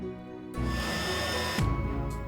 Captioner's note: whirring of heat gun